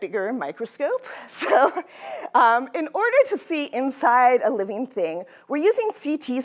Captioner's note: laughter